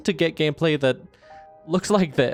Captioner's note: breath